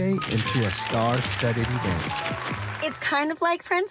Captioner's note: cameras shuttering